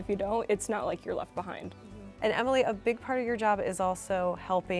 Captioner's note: none